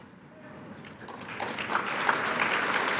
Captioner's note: applause